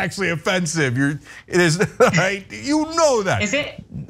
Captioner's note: laugh